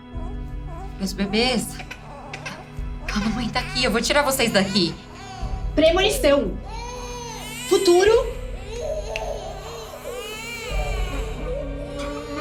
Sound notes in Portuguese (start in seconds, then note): 0.1 bebês chorando; 7.0 bebês continuam chorando; 8.8 choro dos bebês cada vez mais desesperados